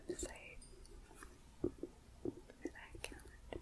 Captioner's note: gentle tapping